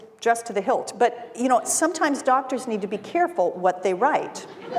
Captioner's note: laughter